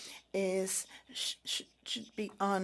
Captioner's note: speaking French